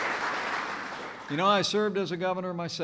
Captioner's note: applause